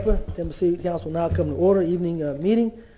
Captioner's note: sounding gavel